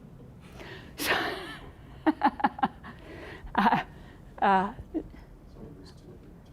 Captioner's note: laughing